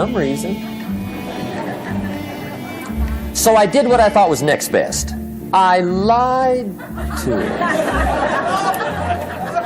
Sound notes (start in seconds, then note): 6.8 laughter